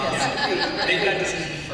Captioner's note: laughter